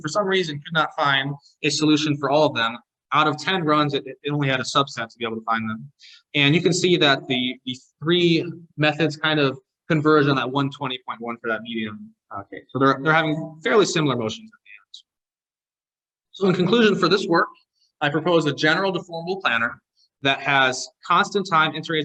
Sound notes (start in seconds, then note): 14.5 audio distortion